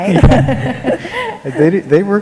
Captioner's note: laughter